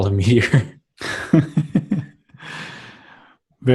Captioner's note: laughs